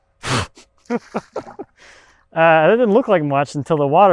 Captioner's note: chuckling